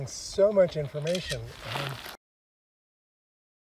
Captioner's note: camera shutter sounds